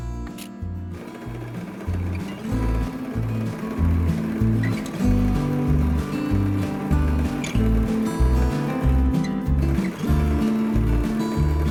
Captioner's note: sewing machine noise